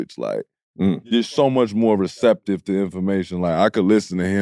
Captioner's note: none